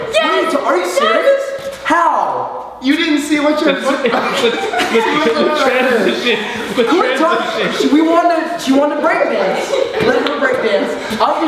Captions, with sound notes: You didn't see what yours looked like. (Laughs) She wanted to break dance! Let her break dance!